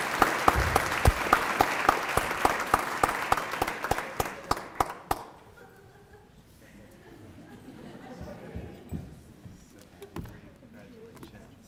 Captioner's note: applause